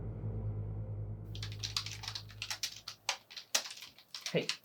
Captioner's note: keyboard clicking